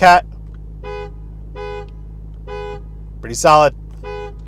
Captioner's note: horn sounds